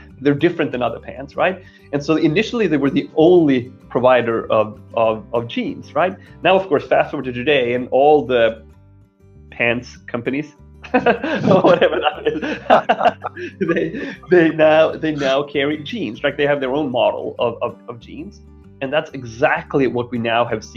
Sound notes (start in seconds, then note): 10.8 both laughing